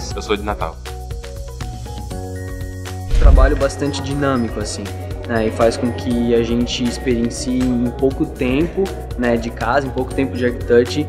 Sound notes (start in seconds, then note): 0.2 speaking portuguese